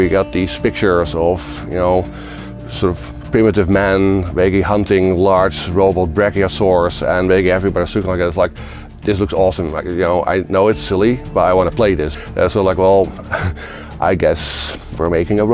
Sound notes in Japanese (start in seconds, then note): 7.4 つぶやく